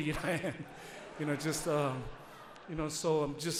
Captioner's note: audience laughs